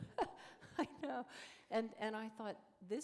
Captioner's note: chuckle